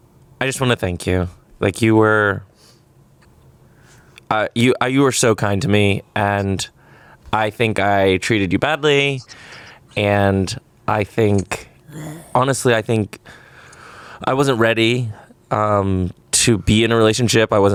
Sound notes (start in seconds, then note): 11.8 gags